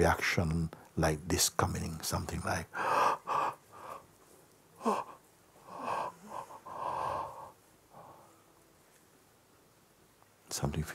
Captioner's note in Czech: velké zívnutí